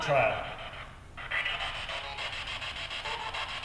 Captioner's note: static buzzing